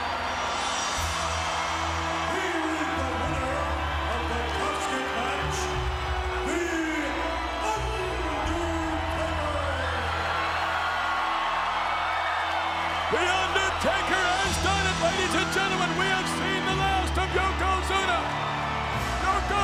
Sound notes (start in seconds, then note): 0.9 dramatic music; 10.2 crowd cheering